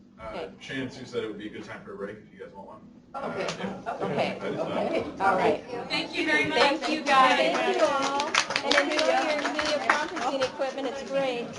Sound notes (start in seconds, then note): 6.5 applause